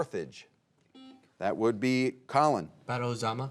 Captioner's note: buzzer beeping